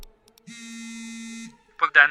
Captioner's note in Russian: Виброзвонок телефона